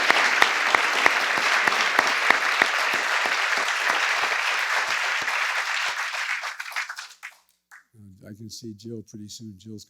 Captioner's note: applause